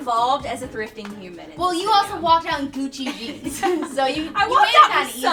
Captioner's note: laughs